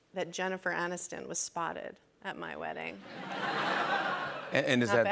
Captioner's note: laughter